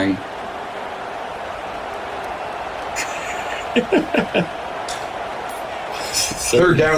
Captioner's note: laughing